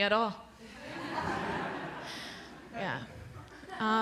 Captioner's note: laughter